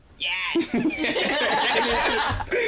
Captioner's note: laughter; funny voice